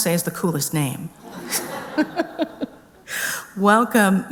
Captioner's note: laughter